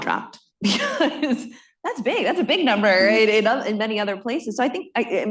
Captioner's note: laughs